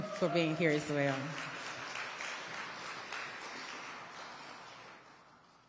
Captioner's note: audience applauding